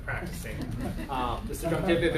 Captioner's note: laughter